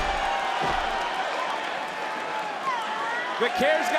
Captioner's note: crowd cheers